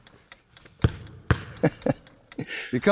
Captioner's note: chuckling